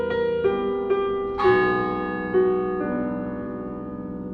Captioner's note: a funeral toll. piano continues